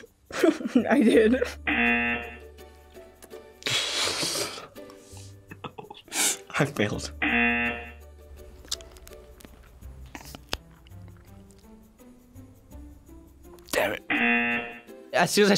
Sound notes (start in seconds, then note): 0.3 laughs; 1.6 buzzer rings; 5.4 laughs; 7.2 buzzer rings; 10.0 gum pops; 14.1 buzzer rings